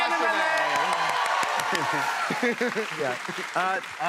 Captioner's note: cheers and applause